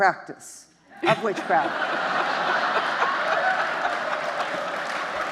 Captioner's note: justices and audience laughing; audience applauding